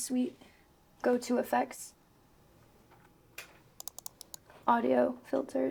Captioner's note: mouse clicks